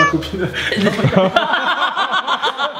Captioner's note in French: rire